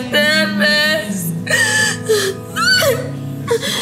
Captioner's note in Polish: płacz